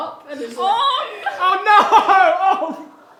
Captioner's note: groaning; laughing